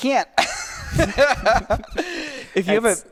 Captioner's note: both laughing